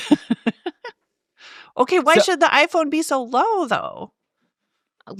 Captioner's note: laughing